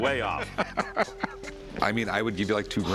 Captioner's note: laughter